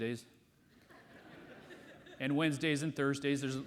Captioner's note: audience laughs